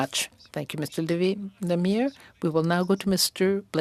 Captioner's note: speaking French